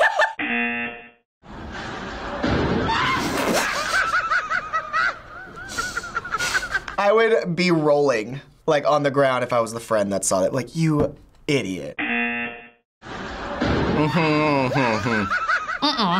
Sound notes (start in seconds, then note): 0.1 laughs; 0.4 buzzer rings; 3.3 people laughing; 3.4 laughs; 12.0 buzzer rings; 13.2 hums